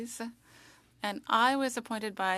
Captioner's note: speaking French